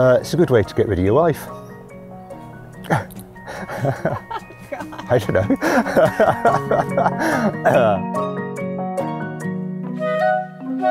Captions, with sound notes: - It's a good way to get rid of your wife. (chuckles) I don't know. (laughter)